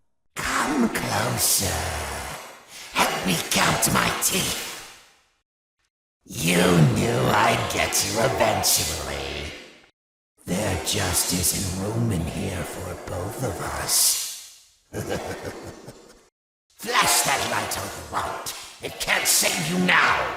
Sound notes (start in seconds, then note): 1.1 sinister, Raspy Voice; 7.0 sinister, Raspy Voice; 11.1 sinister, Raspy Voice; 14.9 sinister chuckle; 17.2 sinister, Raspy Voice